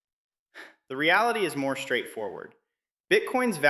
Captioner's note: sighs